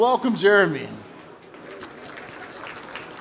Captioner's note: applause